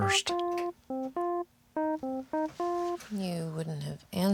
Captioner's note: Nao tapping keyboard